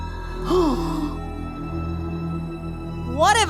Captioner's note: gasps